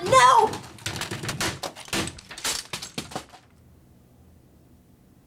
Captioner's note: computers smashing